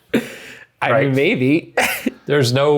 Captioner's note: laughs